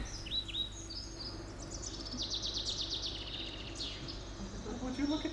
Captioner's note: birds chirp as the sun returns